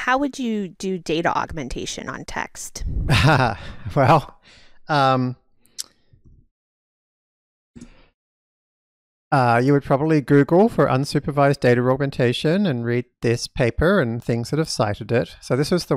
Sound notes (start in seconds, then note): 3.1 laughs